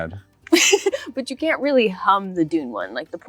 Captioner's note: laughs